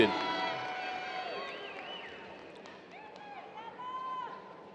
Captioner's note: audience cheers